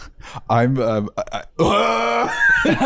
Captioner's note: horrified scream